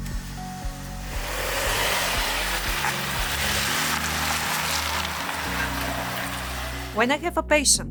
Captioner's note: car starting; car engine noise